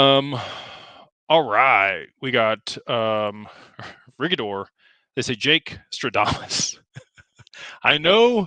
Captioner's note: laughter